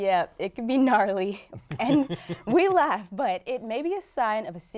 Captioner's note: laughter